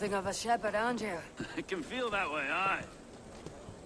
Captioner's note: laugh